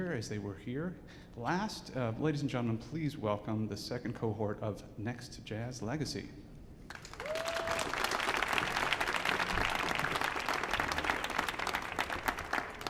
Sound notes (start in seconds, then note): 6.9 audience cheering and applauding